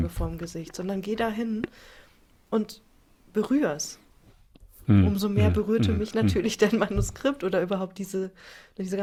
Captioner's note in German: räuspern